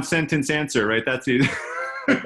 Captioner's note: laughing